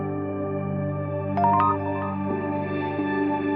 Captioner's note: soft music; text sound; soft music